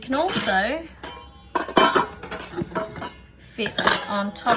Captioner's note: clatter, clatter, clatter; clatter